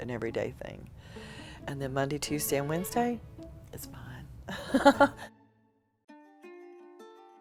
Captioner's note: laughs